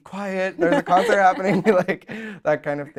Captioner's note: both laugh